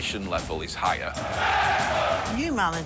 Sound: cheering

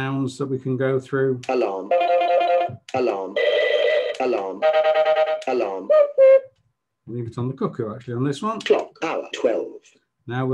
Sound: clock makes different alarm noises

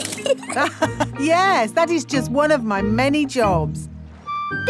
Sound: laughs

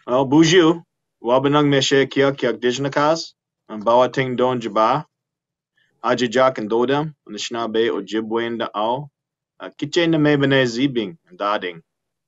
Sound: speaking Indigenous language

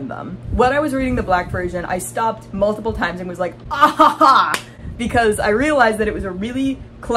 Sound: satisfied laugh

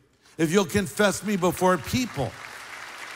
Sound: applause

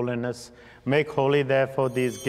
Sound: bells ringing

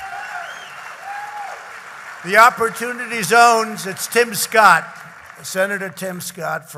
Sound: applause

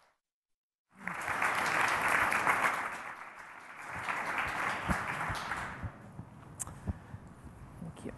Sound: applause

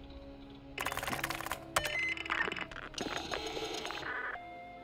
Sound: phone ringing

